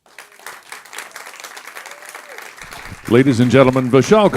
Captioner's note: applauding